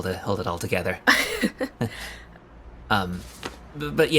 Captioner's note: both chuckle awkwardly